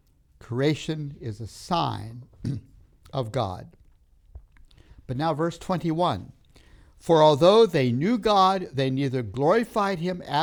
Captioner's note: clears throat